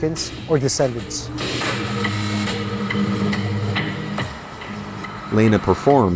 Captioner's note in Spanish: Tamborileo